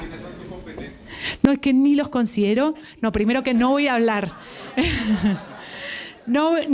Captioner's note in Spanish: Risas